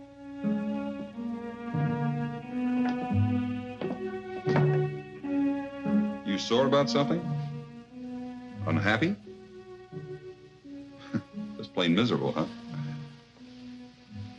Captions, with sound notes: (soft dramatic music) You sore about something? Unhappy? (chuckles) Just playing miserable, huh?